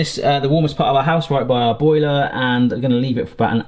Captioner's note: none